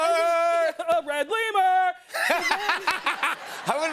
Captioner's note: laughter